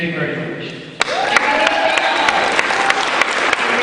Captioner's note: cheering